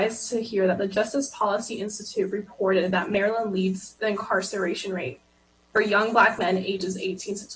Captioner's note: different language